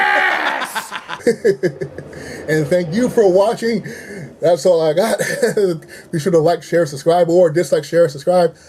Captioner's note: laughs